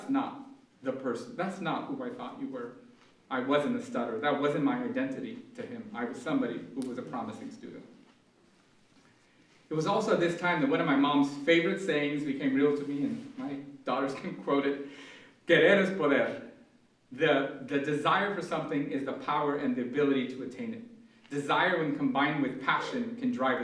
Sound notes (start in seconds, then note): 15.6 speaking in Spanish